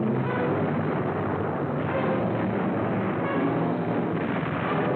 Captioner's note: explosions